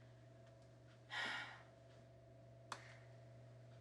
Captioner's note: sighs